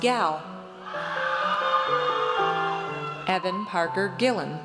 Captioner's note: audience cheers